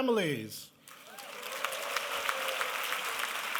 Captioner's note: applause